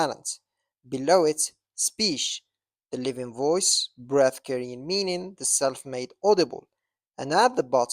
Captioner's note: speech